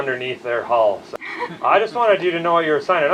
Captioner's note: laughs